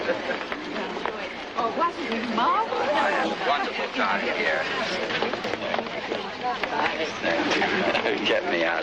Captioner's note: society chatter